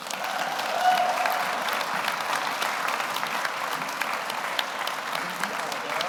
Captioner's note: audience applauds; audience cheers